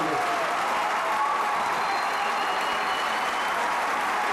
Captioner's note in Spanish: Aplausos-ovación